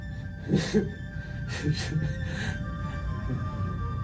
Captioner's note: laughing